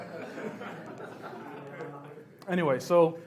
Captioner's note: laughs